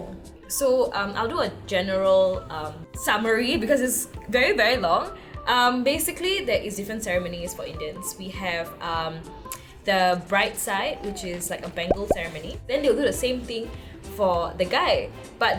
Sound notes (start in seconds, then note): none